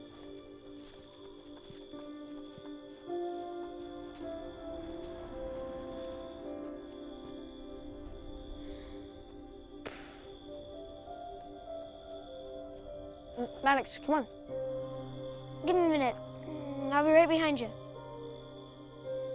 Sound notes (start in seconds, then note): 2.9 contemplative music continues; 10.1 exhales